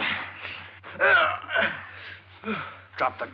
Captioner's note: groaning